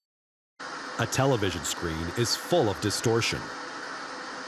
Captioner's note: white noise